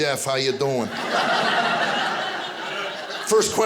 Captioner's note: audience laughing